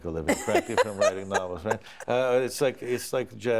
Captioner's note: chuckles